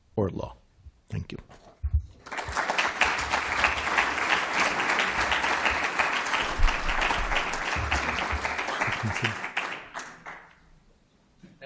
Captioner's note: applause